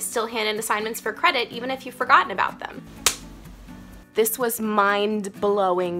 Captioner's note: smack